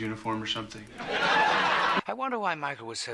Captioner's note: loud laugh track